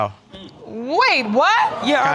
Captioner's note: audience exclaims